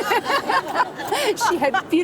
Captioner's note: all laugh